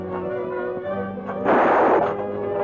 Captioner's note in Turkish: Tüfek sesi